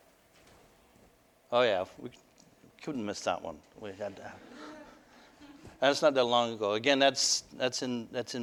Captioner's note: audience: Laughter